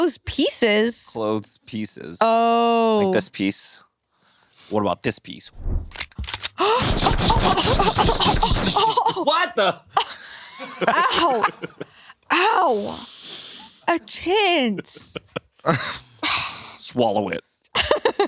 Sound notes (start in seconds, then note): 6.1 grunts; 6.8 gun booming